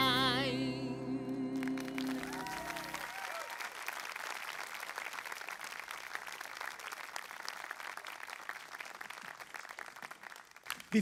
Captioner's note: applause